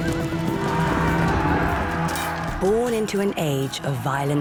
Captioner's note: gritos